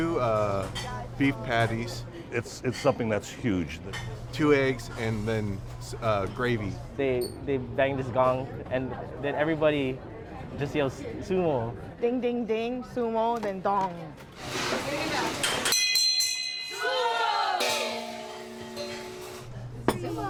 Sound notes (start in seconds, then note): 15.7 bell; 17.5 gong